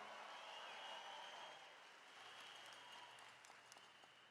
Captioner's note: attendees cheering